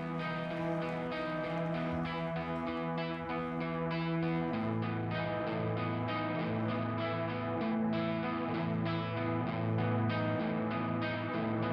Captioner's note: applause